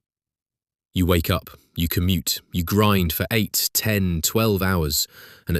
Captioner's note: exhausted